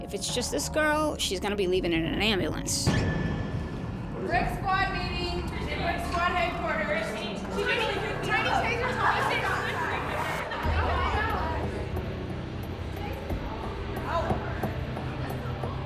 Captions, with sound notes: If it's just this girl, she's gonna be leaving in an ambulance. [women chattering]